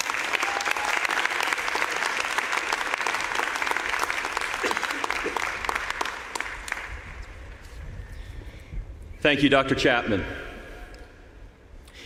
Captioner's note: applause